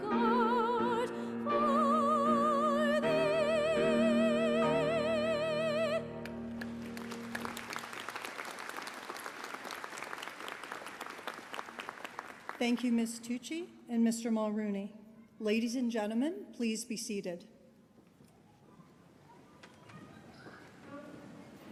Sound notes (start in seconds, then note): 6.5 applause